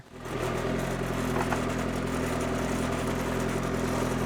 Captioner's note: engine purring